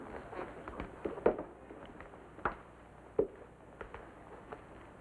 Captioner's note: Obam's footsteps